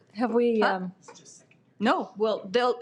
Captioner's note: speaks off-mic